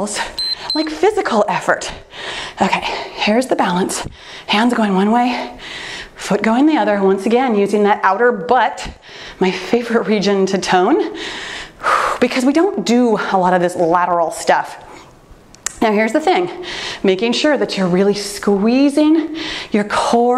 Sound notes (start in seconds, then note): 0.3 timer beeps; 11.1 exhales